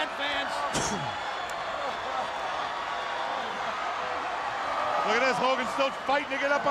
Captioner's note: crowd cheering